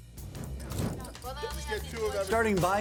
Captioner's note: group chatters